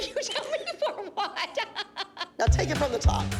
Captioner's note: laughter